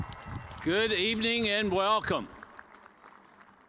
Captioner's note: cheers and applause